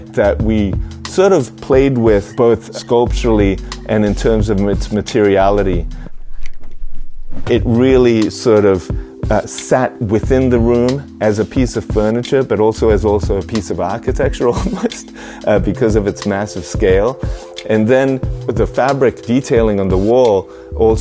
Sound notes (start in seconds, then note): 14.5 laughs